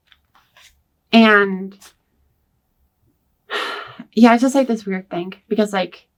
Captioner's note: sighs